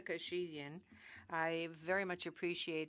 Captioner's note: speaking French